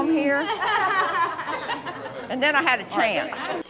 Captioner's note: women laughing